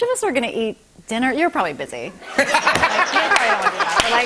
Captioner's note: laughter